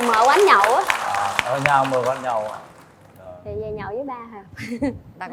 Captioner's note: applause